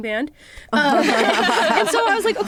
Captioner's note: laughter